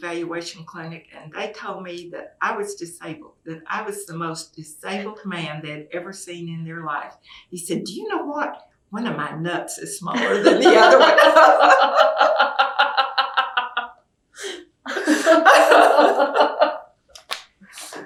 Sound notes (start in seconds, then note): 13.5 laughter